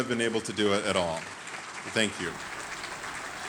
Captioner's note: audience applauding